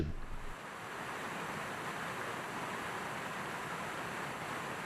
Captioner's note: raining